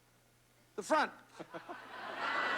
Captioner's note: laughter